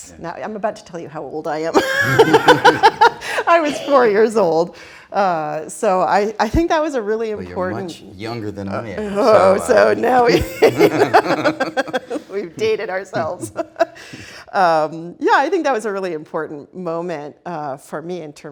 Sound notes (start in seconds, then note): 1.7 laughs; 10.0 both laughing